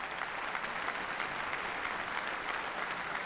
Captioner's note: applause